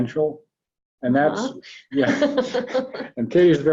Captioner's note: laughs